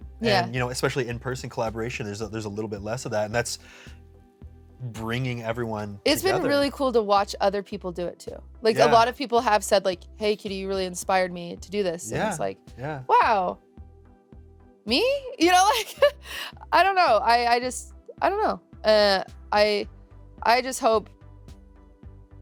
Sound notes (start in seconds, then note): 15.5 chuckles